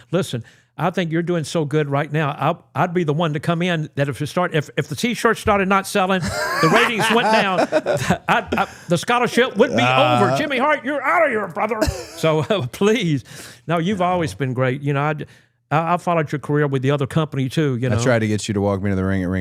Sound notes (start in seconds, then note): 6.2 laughing